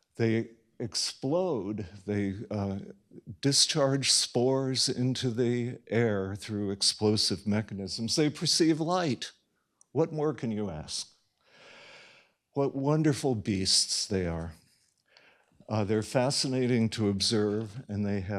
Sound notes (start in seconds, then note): none